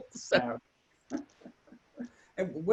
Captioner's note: both laugh